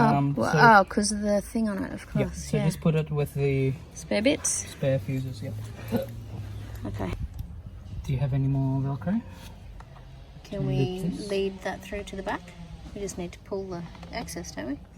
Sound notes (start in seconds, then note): 5.7 hiccups